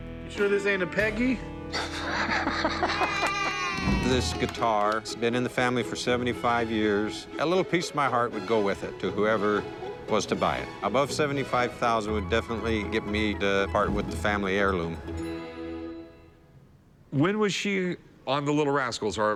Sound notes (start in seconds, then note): 1.8 Rick laughing; 2.8 children cheering